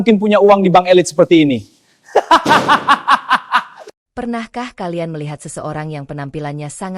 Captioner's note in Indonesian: tertawa